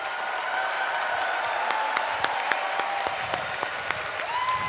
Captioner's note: audience applauding